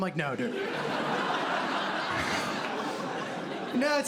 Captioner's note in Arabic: ضحك